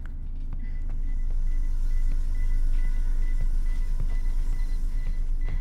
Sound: beeping increases

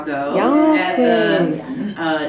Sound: cheering

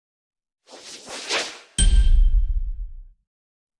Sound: whooshing and music

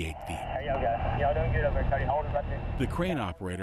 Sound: chatter over the radio

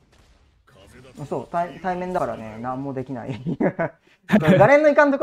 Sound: laughs

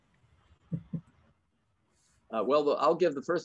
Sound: chuckles

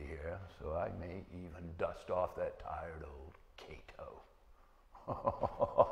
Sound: laughing

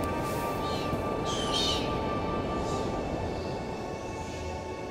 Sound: bird singing

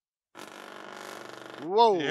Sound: vibrating

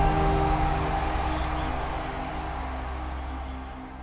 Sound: crowd cheering

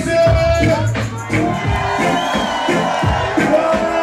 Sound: crowd cheers, applauds

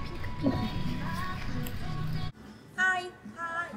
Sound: hehe

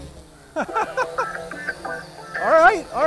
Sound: drone buzzing; laughs

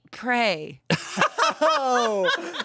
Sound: everyone laughs

